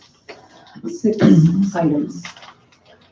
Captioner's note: coughing drowns out speaker